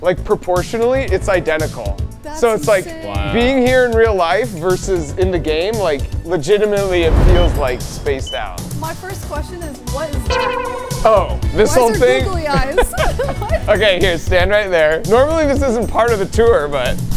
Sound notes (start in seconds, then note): 7.1 satellite beeping; 10.2 inquisitive music; 12.0 laughing